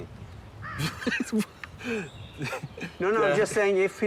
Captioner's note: laughs